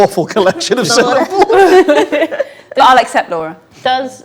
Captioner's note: group laughs